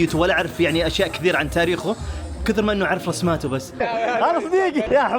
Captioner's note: laughs